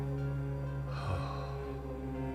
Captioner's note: Oscar sighs